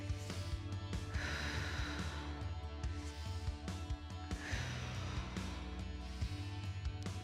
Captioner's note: upbeat music continues; exhaling